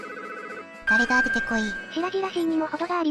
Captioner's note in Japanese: 棒読み